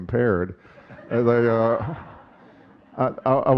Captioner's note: audience chuckling